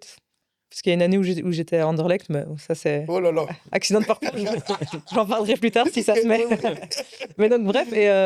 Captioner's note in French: rires